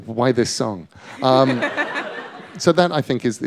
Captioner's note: laughter